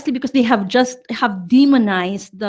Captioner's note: none